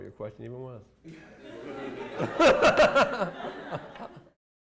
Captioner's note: laughter